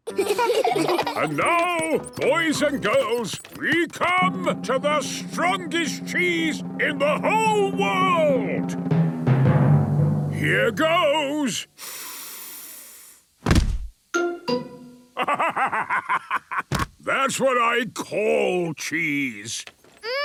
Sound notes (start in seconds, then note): 9.1 dramatic drumming music; 11.8 sniffs; 15.2 bursting laughter